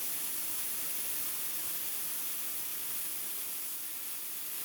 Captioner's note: sparks hissing